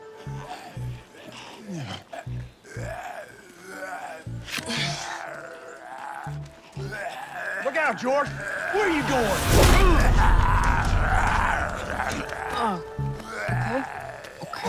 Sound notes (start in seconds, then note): 0.0 laughs; 0.7 snarling